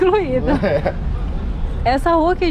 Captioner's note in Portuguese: Risos